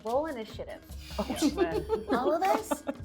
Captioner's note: laughing